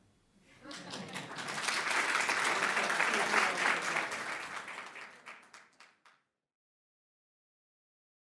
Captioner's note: applause